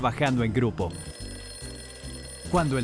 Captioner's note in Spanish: suena la alarma